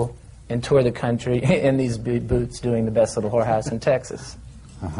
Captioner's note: laughs